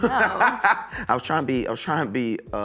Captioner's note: laughs